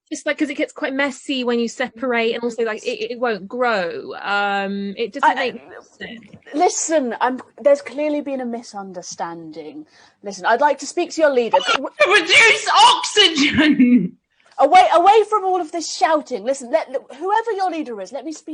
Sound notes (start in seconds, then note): 12.0 shouts